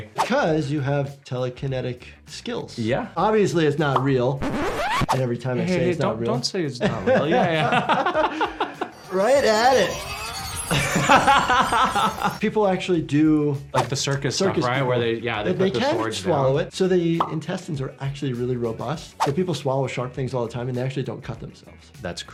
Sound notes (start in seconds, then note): 6.8 both laugh; 9.7 sword whirs; 10.6 laughs